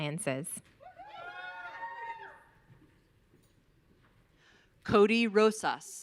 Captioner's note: audience cheering